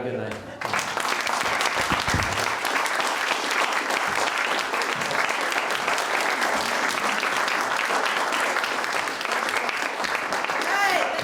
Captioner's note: clapping